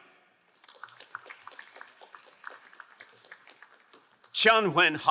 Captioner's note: crowd applauding